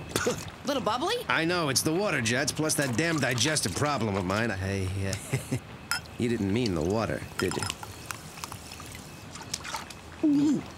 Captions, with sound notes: Little bubbly? I know, it's the water jets plus that damn digestive problem of mine. I... ( chuckles ) You didn't mean the water, did you? ( gulping )